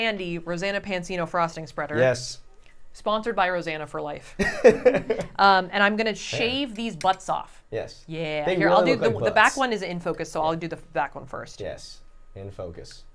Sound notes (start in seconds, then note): 4.4 laughs